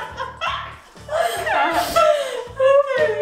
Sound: laughing

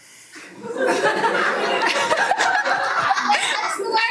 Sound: everyone laughs

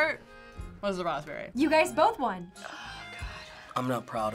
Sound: quietly

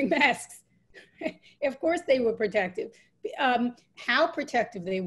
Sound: laughs

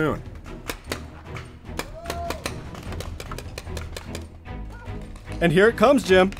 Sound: paint ball guns clacking

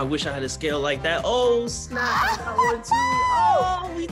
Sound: laughs

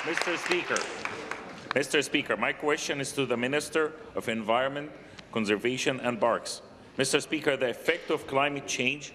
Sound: applause

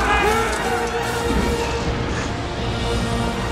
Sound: thunderclap

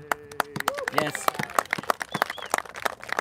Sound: applauses

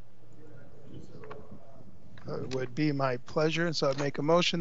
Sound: people chattering

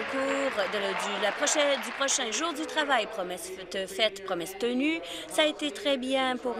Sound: applause

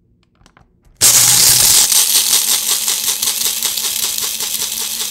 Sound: grinder whirling

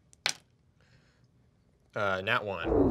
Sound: die clacks

